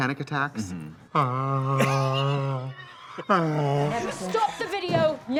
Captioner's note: Trixie exclaims; Katya laughs